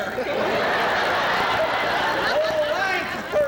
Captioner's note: laughter